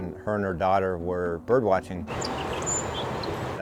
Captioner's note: birds chirping